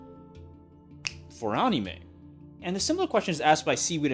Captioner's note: fingers snap